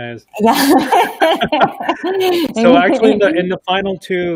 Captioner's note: laughing